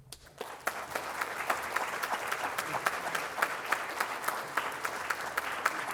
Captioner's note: audience applauding